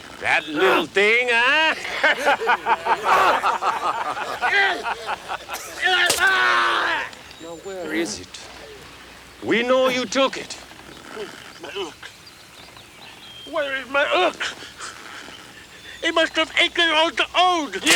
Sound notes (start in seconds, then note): 1.5 Bruto grunts; 2.0 gang members laughs; 6.1 Bruto screams